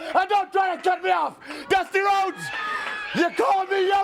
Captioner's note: crowd chatter